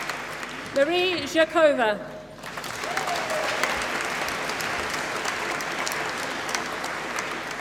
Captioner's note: applause